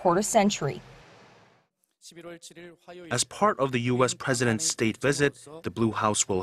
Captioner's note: Korean